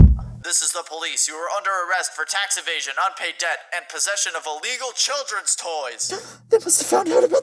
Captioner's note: knock knock